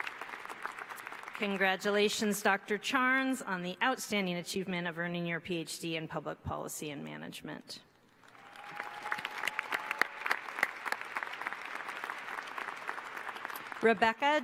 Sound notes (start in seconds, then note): 8.1 applause